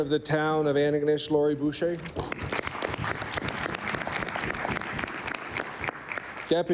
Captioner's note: applause